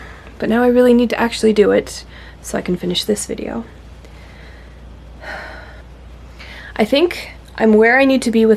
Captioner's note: sighs